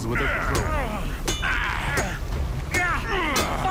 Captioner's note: groaning; crowbar thwacking